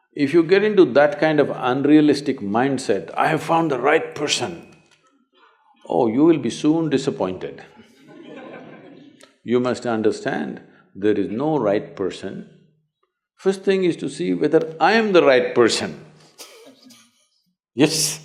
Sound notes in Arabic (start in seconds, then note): 7.7 ضحِك